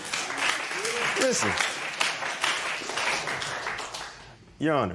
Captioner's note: applause